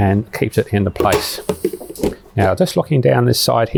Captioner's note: sink pan clattering